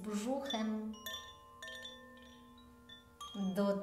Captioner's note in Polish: dźwięk dzwonków